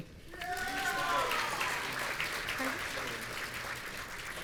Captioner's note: audience cheering